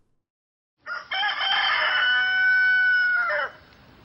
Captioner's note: rooster crowing